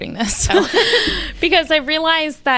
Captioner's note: both laughing